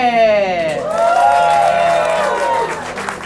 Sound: crowd cheers!

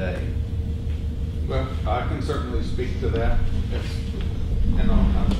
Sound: voiceover

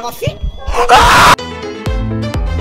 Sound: scream

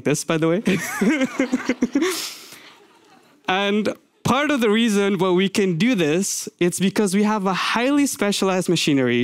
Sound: laughs

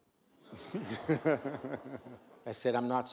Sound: audience laughs

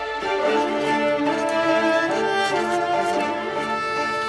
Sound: pen scribbles

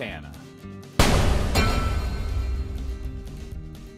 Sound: metal clangs

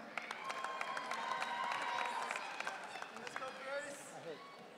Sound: audience cheering

